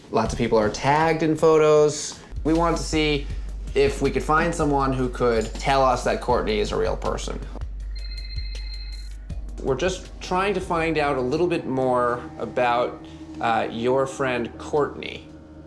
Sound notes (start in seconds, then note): 7.9 phone ringing